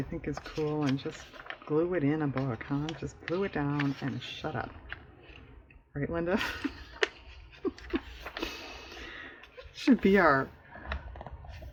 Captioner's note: laughs